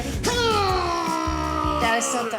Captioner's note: grunting